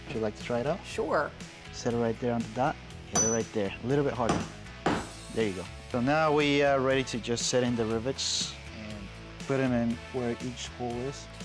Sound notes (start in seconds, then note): 4.8 hammering